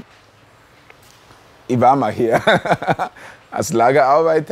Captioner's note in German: lacht